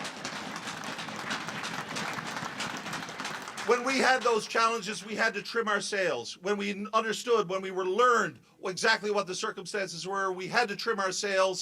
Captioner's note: cheers and applause